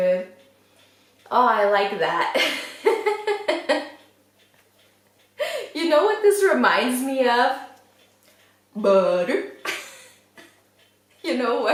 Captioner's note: laughs